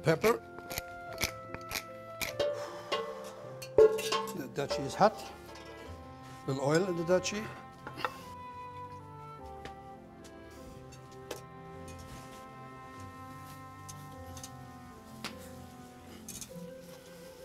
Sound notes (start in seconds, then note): 12.3 sizzling